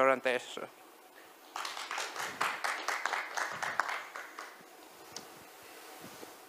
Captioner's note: applause